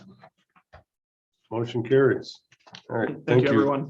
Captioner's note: silence